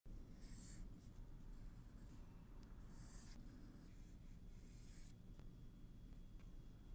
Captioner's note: pencil scratches on paper